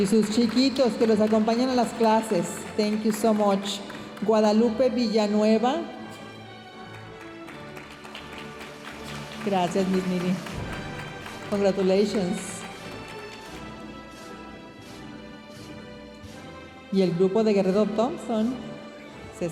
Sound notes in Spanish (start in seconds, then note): 2.8 hablando en inglés; 6.8 aplausos de la audiencia; 11.5 hablando en inglés